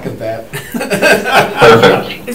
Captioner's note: all laughing